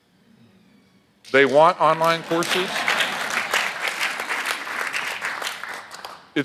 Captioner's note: audience laughs